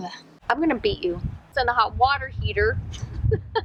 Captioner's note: laughs